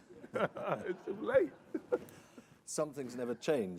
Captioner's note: all laughing